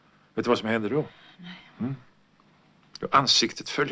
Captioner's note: breathing heavily